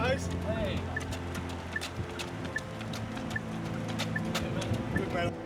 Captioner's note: beeping